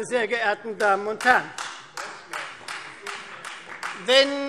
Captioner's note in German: Beifall Freie Demokraten